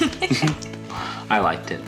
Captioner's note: laughter